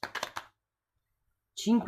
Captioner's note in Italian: Applauso